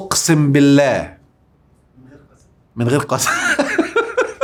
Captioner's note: laughs!